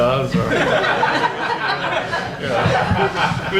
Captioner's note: audience laughs